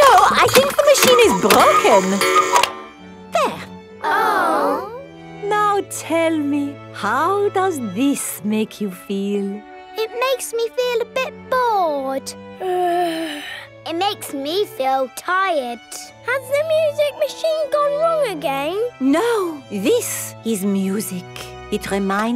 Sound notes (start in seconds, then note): 2.6 cuckoo clock; 5.7 chamber music playing; 12.6 yawns